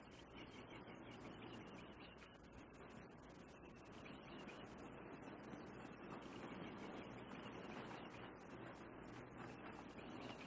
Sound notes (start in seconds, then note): none